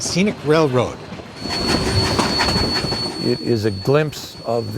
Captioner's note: train rumbling